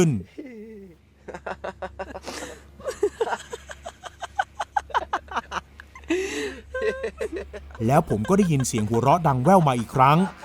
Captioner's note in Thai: เสียงหัวเราะ